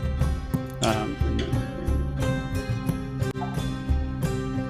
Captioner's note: speaks faintly